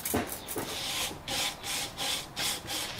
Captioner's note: soft scratching